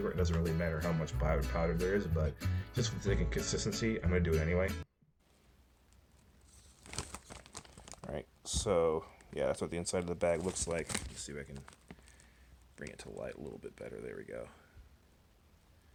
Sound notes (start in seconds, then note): 5.2 crinkle ASMR